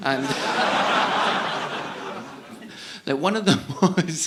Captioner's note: audience laughing